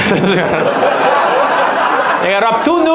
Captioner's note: audience laughs